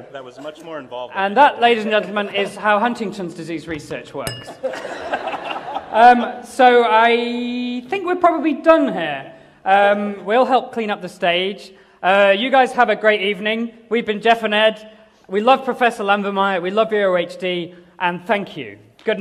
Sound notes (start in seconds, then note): 4.5 laughter